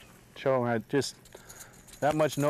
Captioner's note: rattle